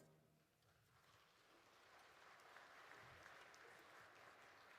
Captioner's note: audience applauding